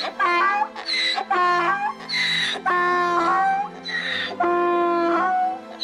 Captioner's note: donkey braying